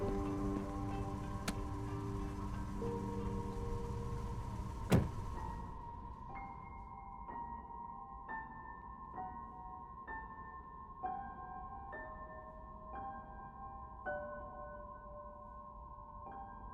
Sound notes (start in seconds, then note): 4.8 door slamming; 7.9 light music